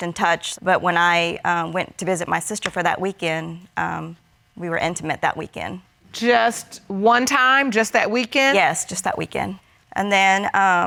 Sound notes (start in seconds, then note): none